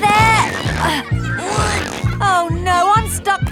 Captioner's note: grunting